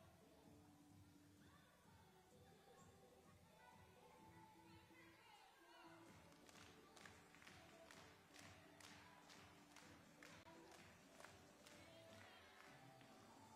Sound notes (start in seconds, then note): 0.2 upbeat music playing; 5.6 upbeat music playing; 6.2 hands clapping; 12.4 upbeat music playing